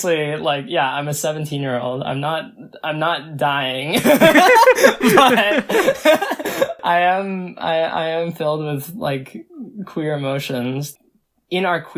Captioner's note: both laugh